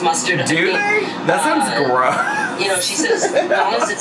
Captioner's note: laughs